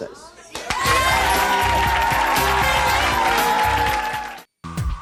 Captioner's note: audience cheering; upbeat music